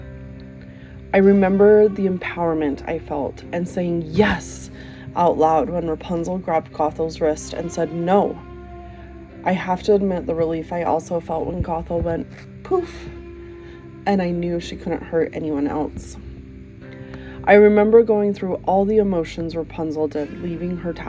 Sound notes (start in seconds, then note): 11.3 poof